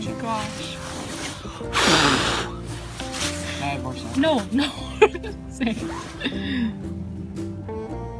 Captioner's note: says no while laughing